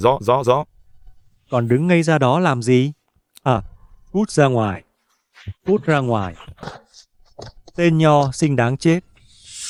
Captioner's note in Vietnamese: khịt mũi